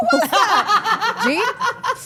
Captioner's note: Steph and Elyse laugh